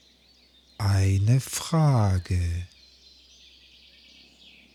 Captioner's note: german